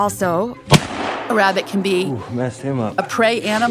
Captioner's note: gunshot